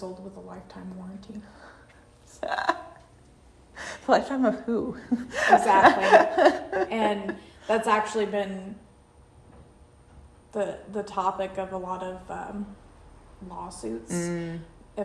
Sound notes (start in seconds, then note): 2.3 laughing; 5.1 laughing